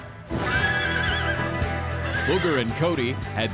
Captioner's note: horse neighing, bucking